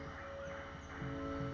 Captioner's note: jungle sounds